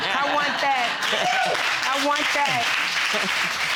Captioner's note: audience cheering